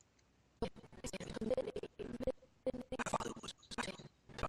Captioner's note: audio skipping